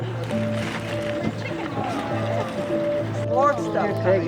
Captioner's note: outside chatter